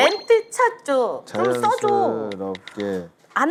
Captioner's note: tap tap